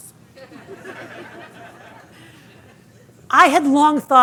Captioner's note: audience laughing